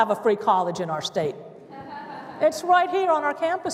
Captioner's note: laughter